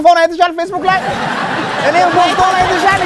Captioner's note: laughter